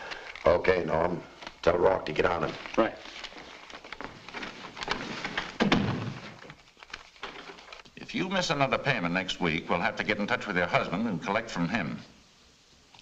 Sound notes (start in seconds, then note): 5.6 door thuds shut